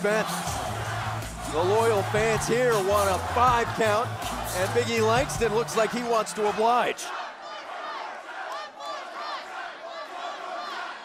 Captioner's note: crowd cheering